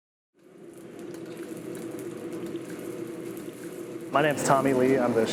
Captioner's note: food sizzling